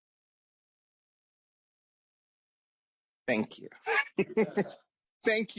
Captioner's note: laughs